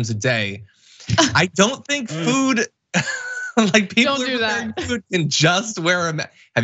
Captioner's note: laugh